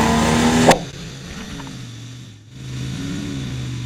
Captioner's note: sound of outboard motor; MOTOR quits silence; sound of outboard motor